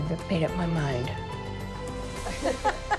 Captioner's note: laughter